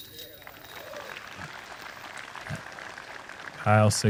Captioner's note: applause